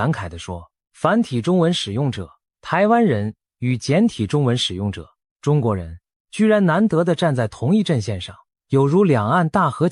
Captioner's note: Taiwanese